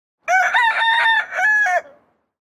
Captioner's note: rooster Crowing